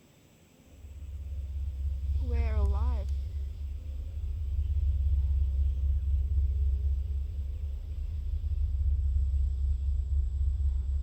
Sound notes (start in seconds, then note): 3.3 cicadas chirping; 3.3 eerie music